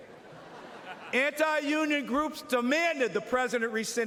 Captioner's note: laughter